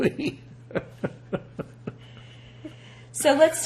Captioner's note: laughing